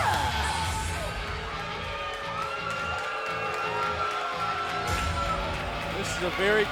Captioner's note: crowd cheering